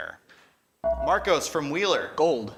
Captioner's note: ding